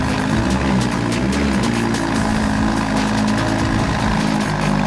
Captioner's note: car engine revving